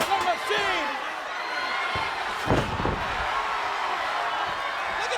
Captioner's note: crowd yelling